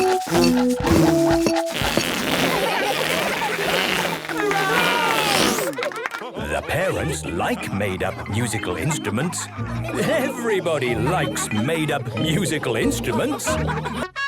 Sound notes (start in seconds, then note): 0.8 children laughing; 2.2 balloon squealing; 5.6 applause, cheering